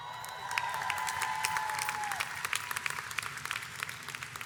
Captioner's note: audience cheers